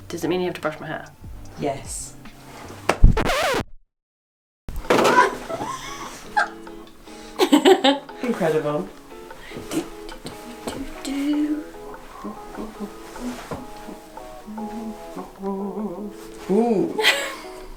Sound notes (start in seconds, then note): 2.8 record scratches; 5.0 laughing; 10.9 singing